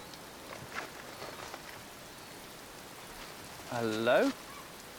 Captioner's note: rain falling